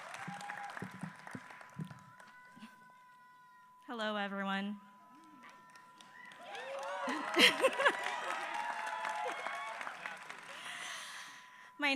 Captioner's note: applause